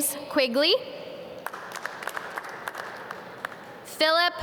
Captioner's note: audience clap